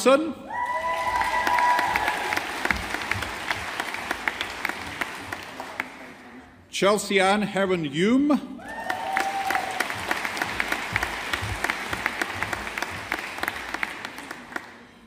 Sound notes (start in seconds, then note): 0.6 audience applauding; 8.6 audience applauding